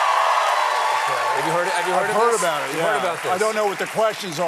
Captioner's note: cheers and applause